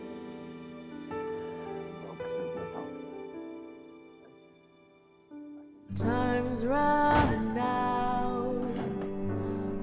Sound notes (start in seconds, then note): 1.9 speaking in Portuguese